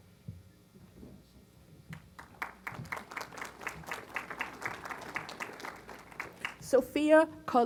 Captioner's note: applause